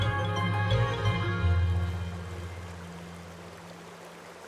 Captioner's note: water trickling